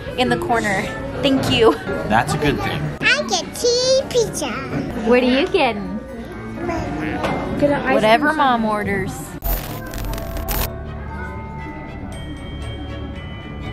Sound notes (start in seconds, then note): 6.7 Blake babbling; 10.4 ominous Christmas music